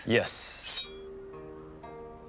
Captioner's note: blade resounds